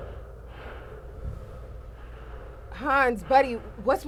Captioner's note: Hans breathing heavily